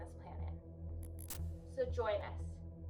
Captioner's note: static buzzing